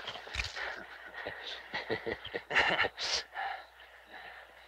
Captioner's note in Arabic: رجال الشرطة يضحكون